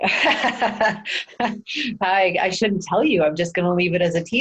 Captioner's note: laughing